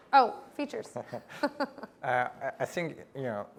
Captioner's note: laugh